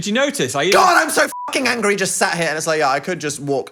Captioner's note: beep